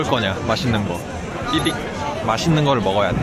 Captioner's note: beep